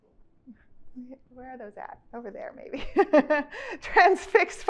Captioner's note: chuckles